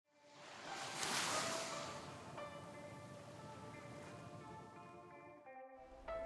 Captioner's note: tranquil music; water lapping